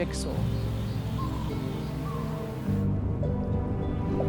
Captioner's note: animals call